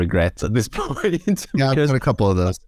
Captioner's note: laughs